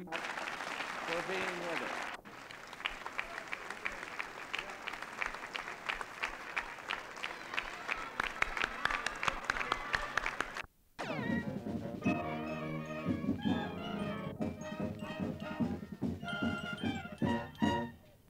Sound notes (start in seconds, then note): 2.2 staccato applause; 11.0 marching band music